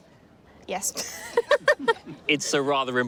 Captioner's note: laughs